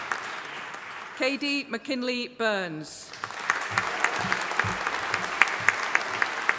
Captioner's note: audience applauding